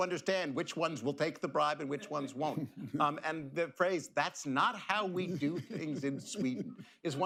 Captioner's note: laughter